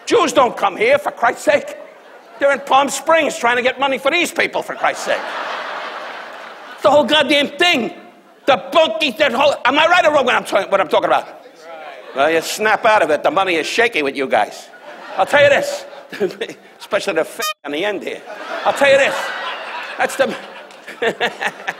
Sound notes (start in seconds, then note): 18.2 audience laughs; 21.2 laughs